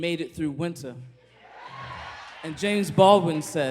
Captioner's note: cheers